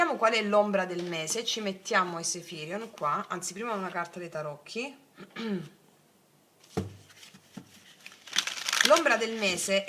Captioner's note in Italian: schiarire la voce